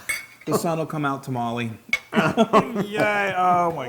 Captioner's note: laugh